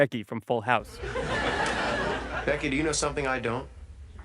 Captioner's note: audience laughing